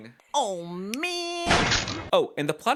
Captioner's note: whack